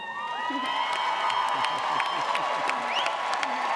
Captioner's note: audience cheering